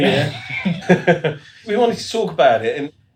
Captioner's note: laughing